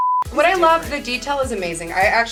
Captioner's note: beep